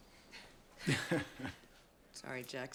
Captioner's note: Jack laughs